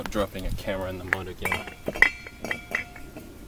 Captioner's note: pot lid goes clingy clang